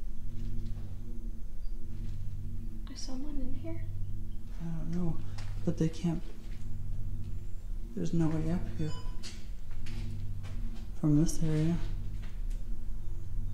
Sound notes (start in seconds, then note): 8.7 phone beeps